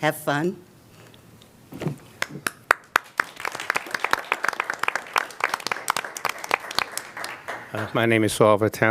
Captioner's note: applause